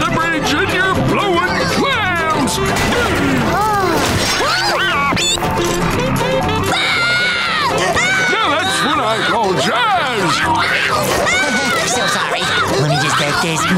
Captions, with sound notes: and you're blowing clams! [screaming] Now that's what I call jazz! Ha, ha. So sorry. Let me just take this.